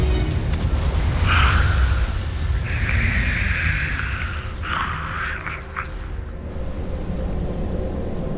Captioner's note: music fades; evil energy whoosh-crackle; wind howling